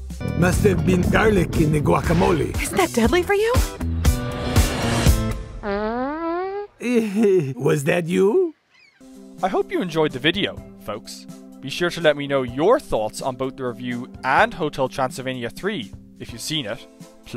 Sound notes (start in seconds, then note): 5.5 farts; 6.2 chuckles